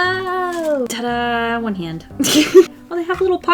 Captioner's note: laughs